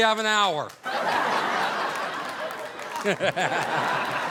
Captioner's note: audience laughing